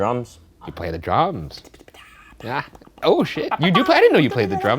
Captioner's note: imitating drums